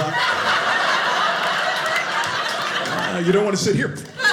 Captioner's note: audience laughing